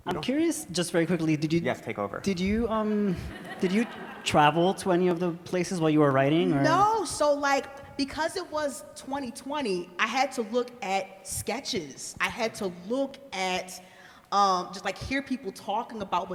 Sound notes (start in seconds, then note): 3.2 everybody laughs